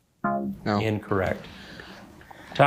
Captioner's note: buzzer beeping